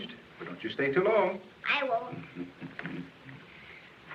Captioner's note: chuckling